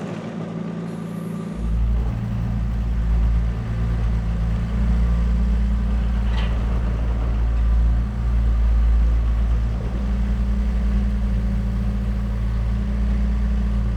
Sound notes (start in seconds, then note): 0.1 whirring continues; 9.6 machine motor humming